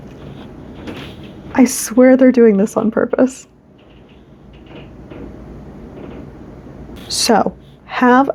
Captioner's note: upstairs neighbor ambiance